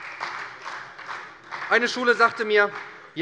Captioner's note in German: Beifall bei der SPD und bei Abgeordneten der FDP